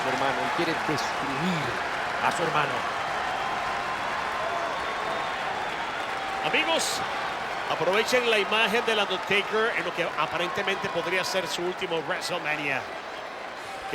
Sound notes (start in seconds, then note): 3.2 applause